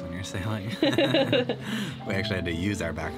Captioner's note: both laughing